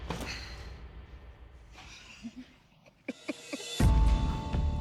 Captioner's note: chuckling